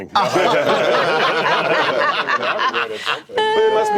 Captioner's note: laughter